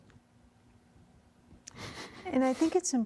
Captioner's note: weeping